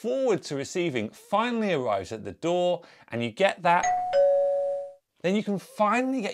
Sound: door bell sound

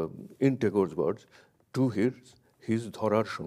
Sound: speaks in a foreign language

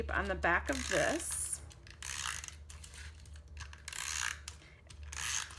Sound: tape dispenser buzzing

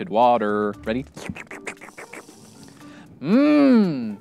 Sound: slurping noises

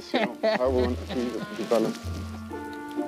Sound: speaking faintly

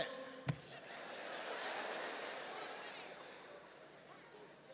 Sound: audience laughs

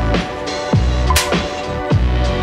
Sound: loud smack

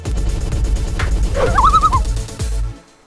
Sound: loon call

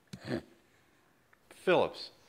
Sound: snorts

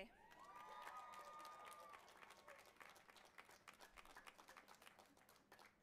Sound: audience applauding and cheering

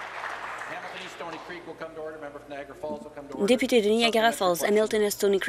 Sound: applause

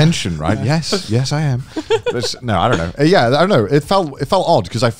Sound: laughing

